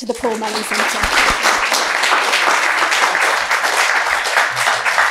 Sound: audience applauding

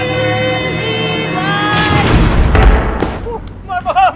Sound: explosion

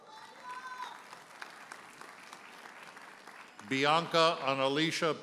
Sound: audience applauds; audience member hollers

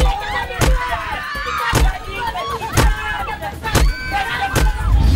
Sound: screaming

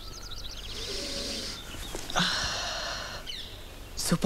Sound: sniffles

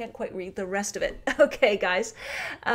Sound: chuckles

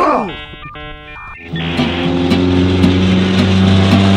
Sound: modem dialing; lively banjo music

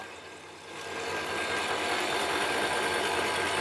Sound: buzzing, rattling

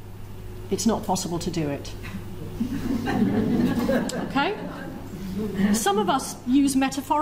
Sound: audience laughs

